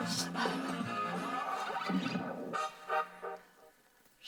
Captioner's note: heavy breathing